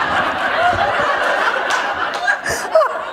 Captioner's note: laughter